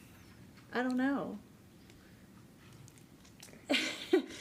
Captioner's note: chuckles